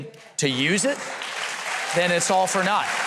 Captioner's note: audience clapping and cheering